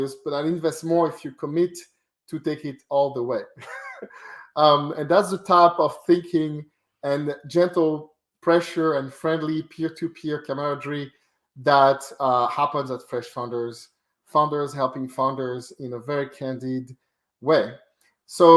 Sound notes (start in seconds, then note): 3.3 laughs